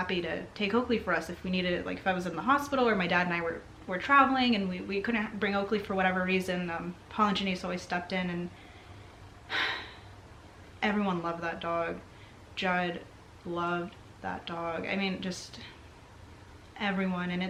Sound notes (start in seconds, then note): 9.4 sighs